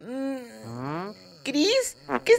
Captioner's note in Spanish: Sonido flatulencia